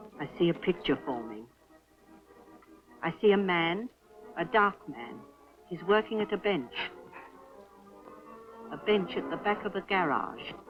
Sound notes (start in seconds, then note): none